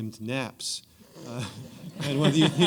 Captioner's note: laughter